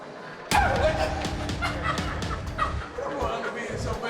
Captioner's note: laughing